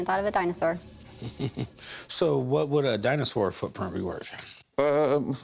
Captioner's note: chuckles